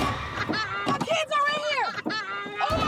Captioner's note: child crying